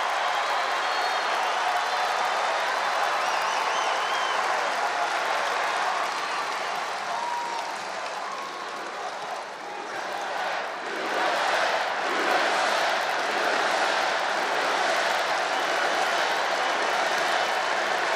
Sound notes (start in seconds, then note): 1.0 applause